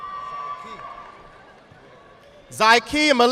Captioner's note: audience applauding